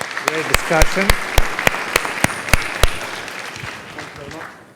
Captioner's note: clapping